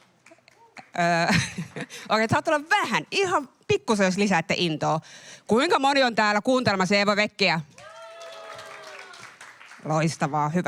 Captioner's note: aplodeja